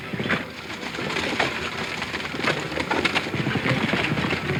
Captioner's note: horse hooves pounding; stagecoach wheels rumbling; horse hooves pounding